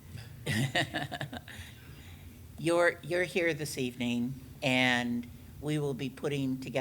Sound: laughs

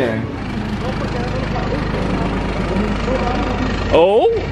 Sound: tram engine puttering

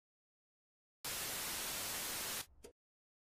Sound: television static

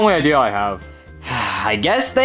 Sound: Luigi sighing

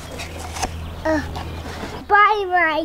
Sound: gasps

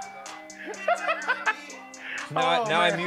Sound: laughs

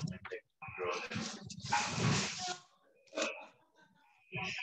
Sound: background chatter

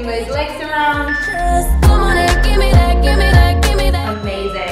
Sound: timer beeping

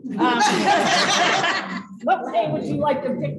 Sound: laughter

